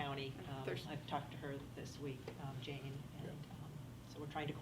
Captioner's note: faintly speaking